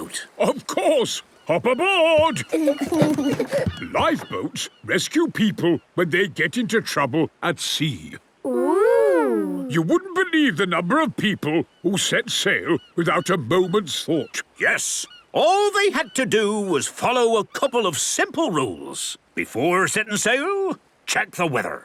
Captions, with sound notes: - Of course! Hop aboard! (both giggle) Lifeboats rescue people when they get into trouble at sea. - Ooh! You wouldn't believe the number of people who set sail, without a moment's thought! - Yes. All they had to do was follow a couple of simple rules. Before setting sail, check the weather!